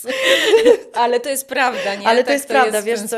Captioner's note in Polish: wciągnięcie powietrza; śmiech